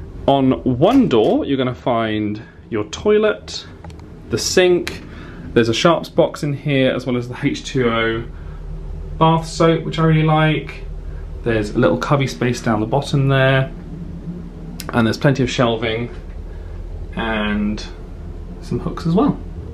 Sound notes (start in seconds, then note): none